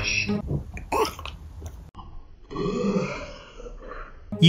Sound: dog burp

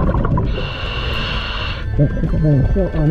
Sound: breaths in

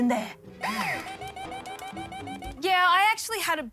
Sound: alarm blares

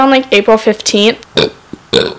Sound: burps; burps again

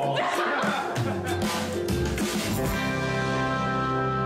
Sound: laughing

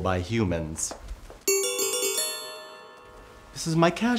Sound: tink bells

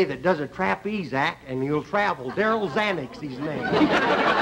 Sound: laughter

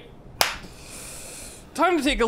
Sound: takes a deep breath

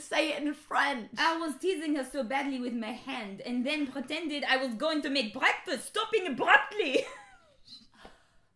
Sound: in French accent

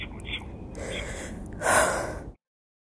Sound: deep breath

